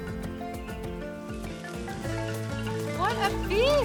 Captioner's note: sizzling